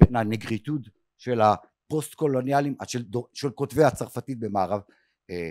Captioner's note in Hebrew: שפה זרה